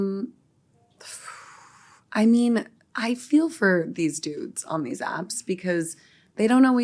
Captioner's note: exhales